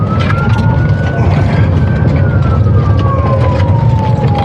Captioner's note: sirenen w waililingn